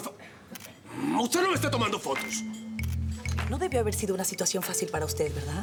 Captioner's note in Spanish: Incesante clic de las cámaras